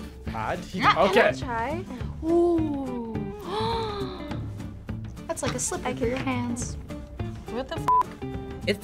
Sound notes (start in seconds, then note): 0.8 laughs; 3.2 gasps